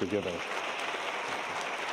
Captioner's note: applause